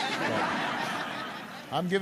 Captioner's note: laughter